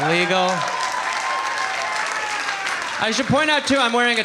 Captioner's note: audience cheering